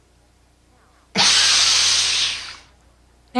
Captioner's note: breathing